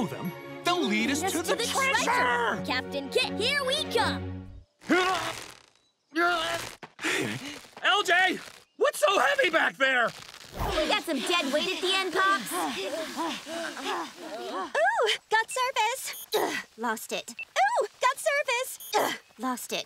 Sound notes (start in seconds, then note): 4.1 grunting; 12.4 panting